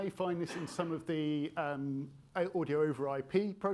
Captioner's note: attendee coughing